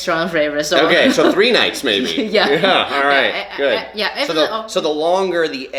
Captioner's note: laughs